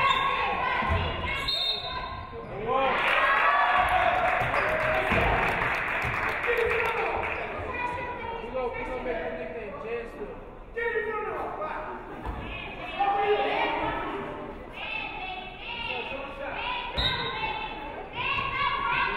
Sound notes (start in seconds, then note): 1.4 referee whistles; 3.0 audience clapping